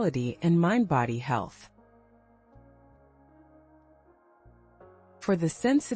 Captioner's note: pause